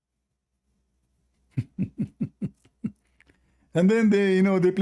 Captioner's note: Ketawa